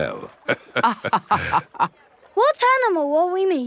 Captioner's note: both laughing